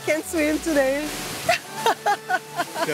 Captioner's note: laughs